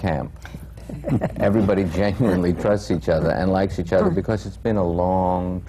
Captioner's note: laughter